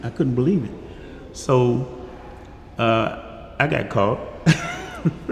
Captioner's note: laughs